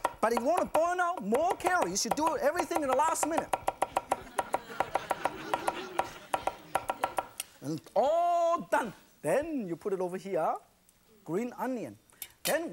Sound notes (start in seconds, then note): 4.0 audience laughs